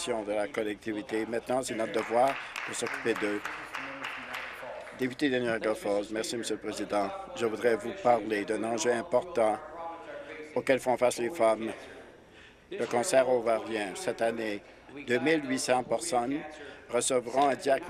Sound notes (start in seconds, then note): 5.8 applause